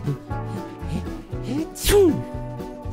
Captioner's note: sniffles